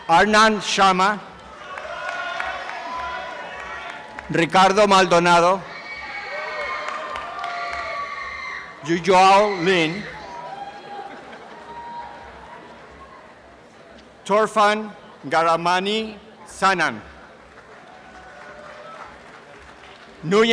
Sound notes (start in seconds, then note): 1.4 applause and cheering; 10.2 applause and cheering